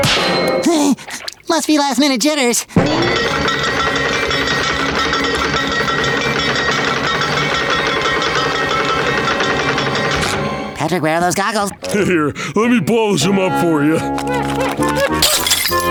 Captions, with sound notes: Heh! Must be last-minute jitters! [jingling] [jingling] Patrick, where are those goggles? Right here. Let me polish them up for ya. [shattering]